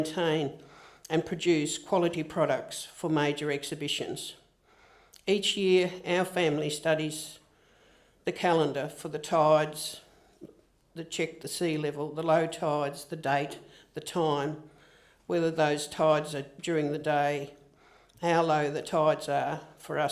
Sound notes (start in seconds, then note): none